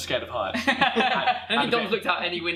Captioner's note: laughter